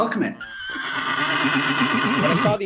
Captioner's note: horse neighing